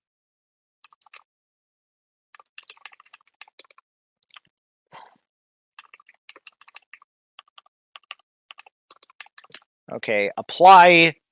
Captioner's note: typing